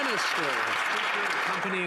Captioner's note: some Applause